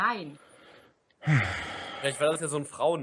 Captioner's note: sighs